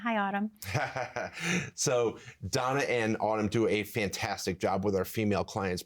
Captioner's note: laughs